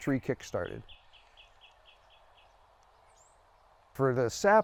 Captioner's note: bird chirping